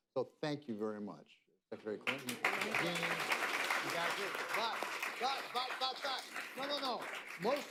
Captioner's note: applause